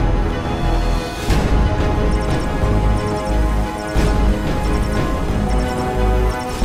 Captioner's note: bike sounds warning tones regarding air toxicity levels